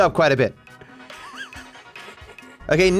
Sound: laughs

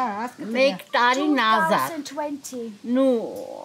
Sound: speaking Armenian

